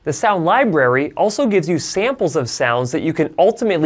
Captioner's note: none